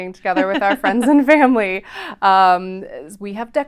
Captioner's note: both chuckling